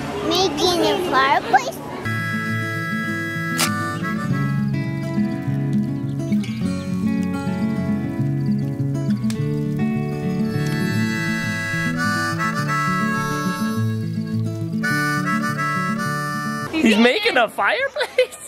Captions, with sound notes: - Making a fireplace? (relaxing music begins) (match lights) (relaxing music continues) - He's making a fireplace!?